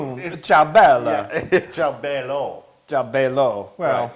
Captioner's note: laugh